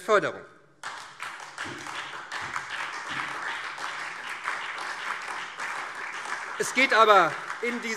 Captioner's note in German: Beifall SPD